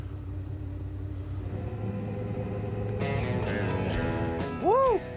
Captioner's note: motor starting